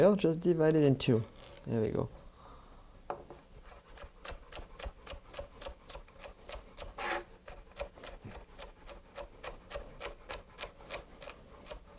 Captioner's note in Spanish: sonido cortando